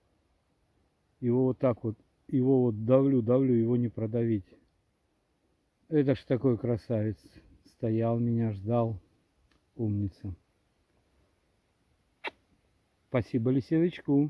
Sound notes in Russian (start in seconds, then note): 12.2 звук поцелуя!!!